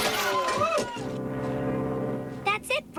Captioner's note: honk